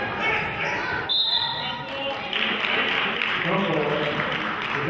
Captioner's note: whistle blows; clapping